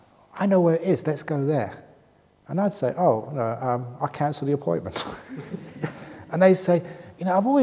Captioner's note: laughs